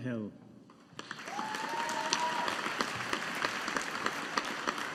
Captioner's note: audience applauding